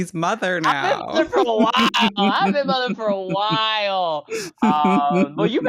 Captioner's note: laughter